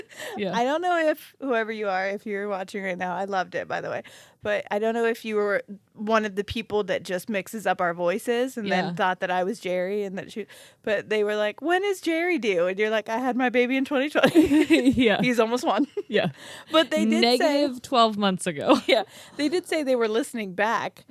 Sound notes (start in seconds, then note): 14.3 both laugh